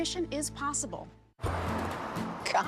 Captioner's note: traffic sounds